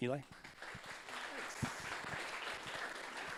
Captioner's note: audience applauds